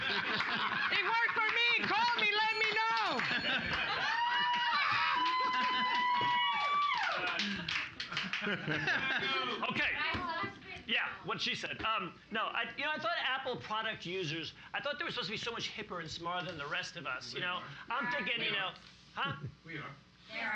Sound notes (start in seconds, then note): 0.1 laughing and clapping; 3.0 bell softly chimes; 3.8 cheers and applause